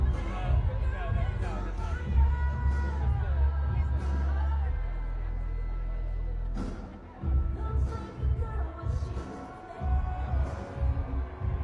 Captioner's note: applause